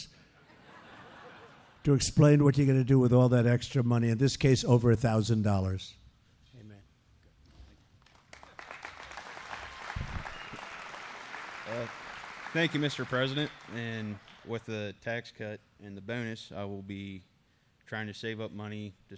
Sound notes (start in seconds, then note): 0.4 laughter; 6.0 applause